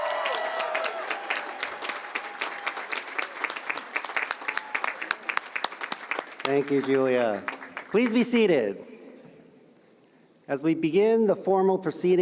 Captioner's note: cheers and applause